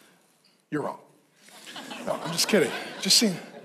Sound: congregation laughs

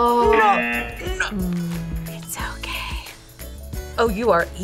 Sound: buzzer; whispers

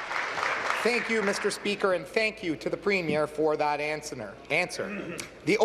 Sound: applause

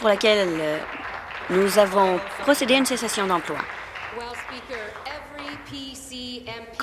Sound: some Applause

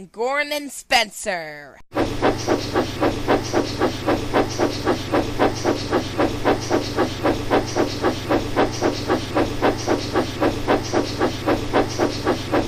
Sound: puffing

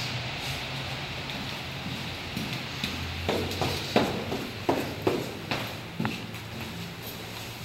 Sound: footsteps

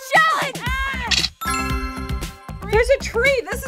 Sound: yells; camera flashes

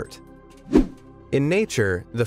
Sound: video whooshing

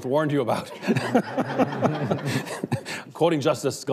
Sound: laughing

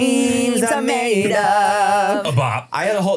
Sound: clearing throat

